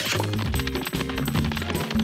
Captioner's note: smooches